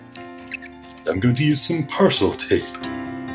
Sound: American accent

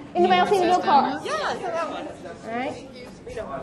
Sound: voiceover

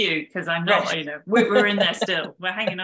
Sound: both chuckling

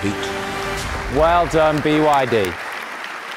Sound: audience applauding

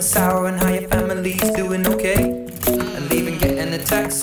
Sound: mmmm

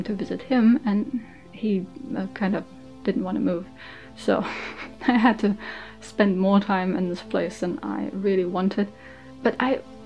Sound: laughs

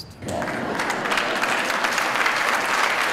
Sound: applause

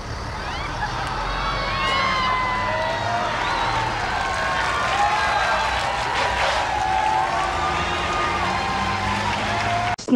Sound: audience cheers as Teller is run over by a truck

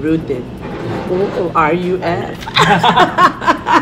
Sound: laughs

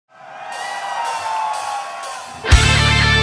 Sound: audience cheers

